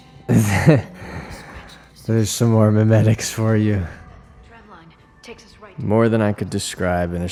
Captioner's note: laughs